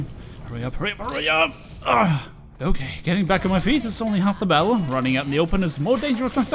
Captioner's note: groaning